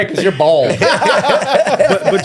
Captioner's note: all laughing